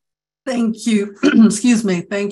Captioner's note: clears throat